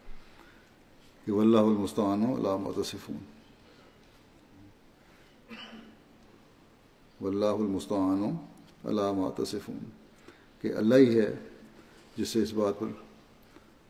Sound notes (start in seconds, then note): 1.2 Arabic